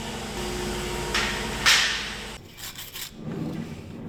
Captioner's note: metal clanging; brush scraping